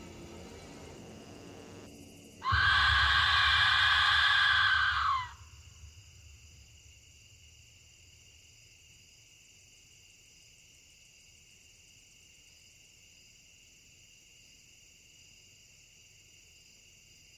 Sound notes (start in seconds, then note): 2.4 investigator screeching; 6.6 crickets chirping